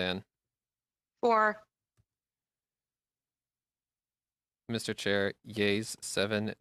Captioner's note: speaking French